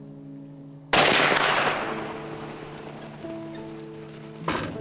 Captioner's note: gun firing